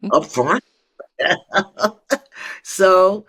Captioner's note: laughs